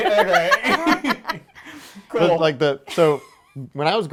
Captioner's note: laughing